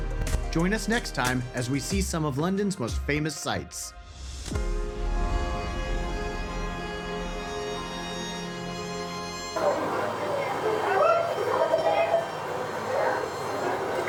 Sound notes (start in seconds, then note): 4.3 upbeat music; 5.9 crowd chattering